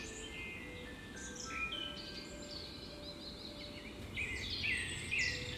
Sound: birds chirp with playful music

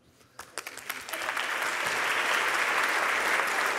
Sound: applause

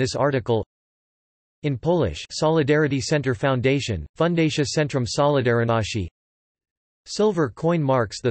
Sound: in Polish

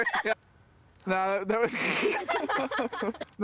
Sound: giggling; snickering

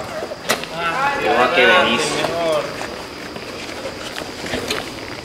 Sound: indistinctive chattering

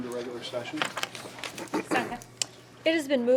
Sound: rustling

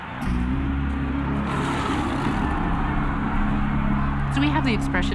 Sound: snarling

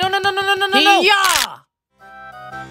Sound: bones crack

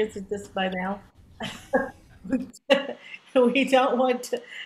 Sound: laughs

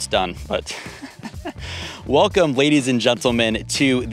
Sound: laughs

